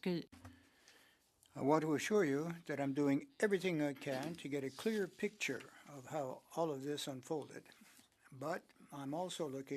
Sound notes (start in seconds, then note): 2.1 speaking French